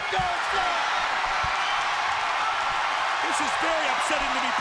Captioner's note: crowd cheering